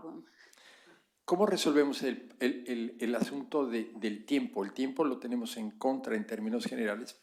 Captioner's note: spanish